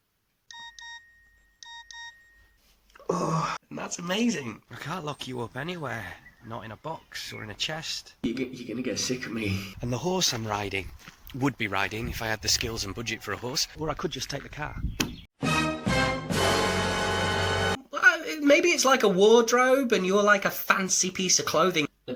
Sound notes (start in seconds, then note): 0.5 text tone; 3.0 groan